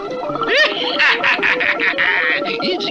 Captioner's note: Simon Bar Sinister Laughs